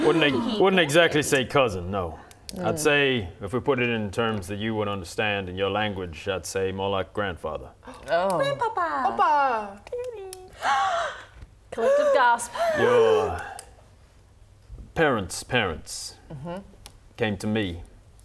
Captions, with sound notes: Wouldn't exactly say cousin, no I'd say if we put it in terms that you would understand in your language, I'd say more like grandfather *gasp* Oh Grandpapa! Papa! *gasps* Collective gasp *gasping* - Your Parents' parents came to me